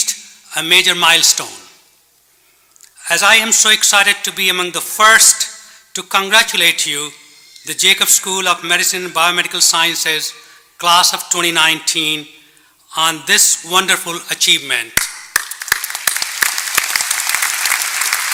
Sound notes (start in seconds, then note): 13.4 applause